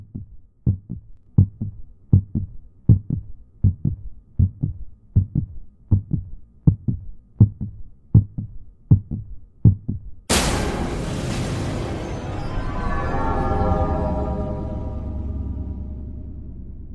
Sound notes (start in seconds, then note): 0.0 louder heartbeat; 1.4 even louder heartbeat; 10.3 scary sound